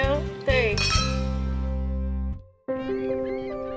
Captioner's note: glasses cling; foreboding music